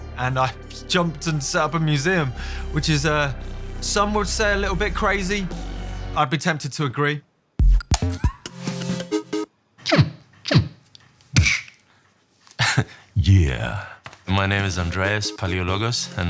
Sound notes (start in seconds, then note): 7.6 quirky electronic music; 10.1 chirps; 11.2 thwaps